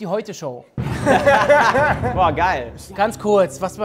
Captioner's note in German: Lachen